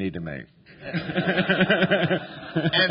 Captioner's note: laughter